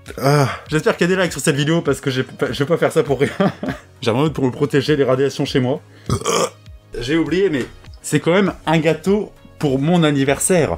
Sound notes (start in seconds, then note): 6.0 retches, + bonus burp